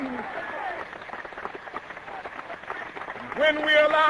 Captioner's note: cheering